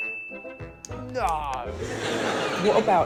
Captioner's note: correct ding sound